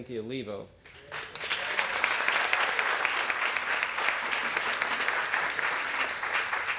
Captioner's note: applause